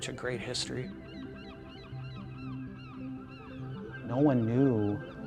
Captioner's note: birds cry